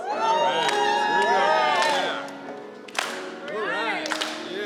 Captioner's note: choir cheering